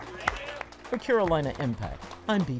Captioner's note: participants applaud